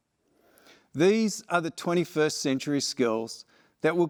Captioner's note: none